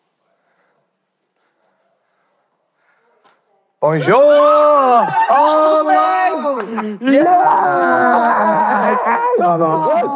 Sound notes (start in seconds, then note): 4.0 cheering